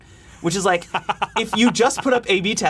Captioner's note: laughing